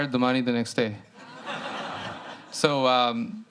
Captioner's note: laughter